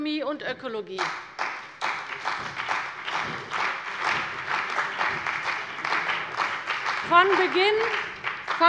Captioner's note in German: Beifall bei der CDU und dem BÜNDNIS 90/DIE GRÜNEN